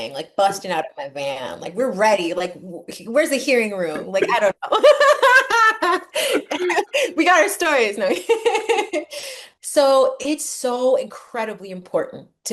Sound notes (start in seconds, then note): 4.6 laugh; 8.5 laughs